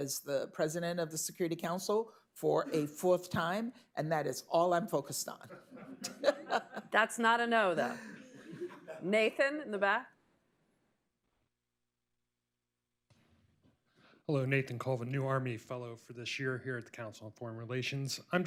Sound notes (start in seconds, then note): 10.3 laughter